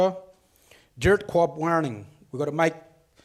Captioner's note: speaks foreign language